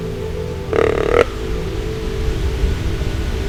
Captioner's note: sound of grunt call